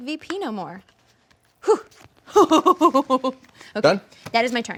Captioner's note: laughing